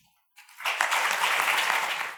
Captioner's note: audience applause